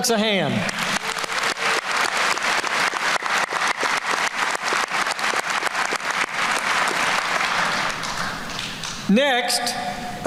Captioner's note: applause